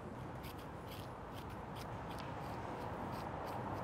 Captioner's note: spoon scrapes